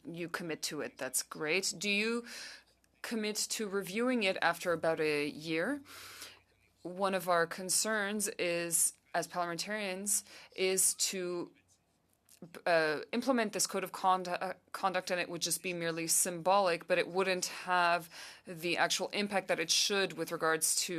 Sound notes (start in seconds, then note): 2.6 speaking French